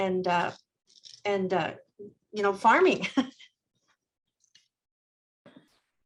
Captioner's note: chuckles